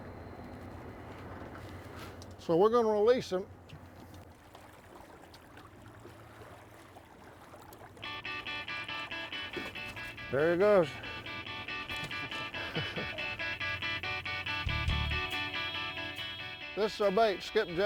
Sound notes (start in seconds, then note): 8.1 upbeat music; 12.0 laughs; 15.1 upbeat music